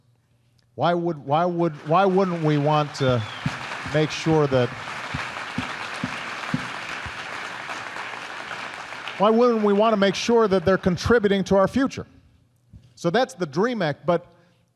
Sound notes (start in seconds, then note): 1.8 applause